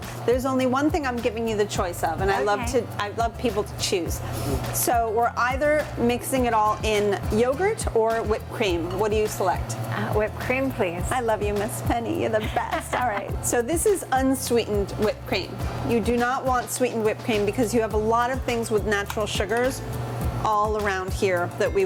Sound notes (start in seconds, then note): 11.9 laughs